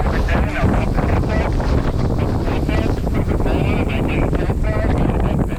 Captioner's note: roaring wind drowns out the radio